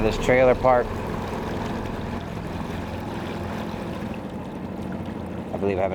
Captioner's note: tense music continues; motor droning